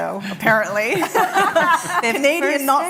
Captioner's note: laughter